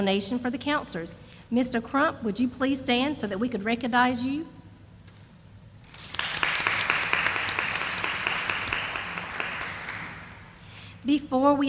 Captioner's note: sound of applause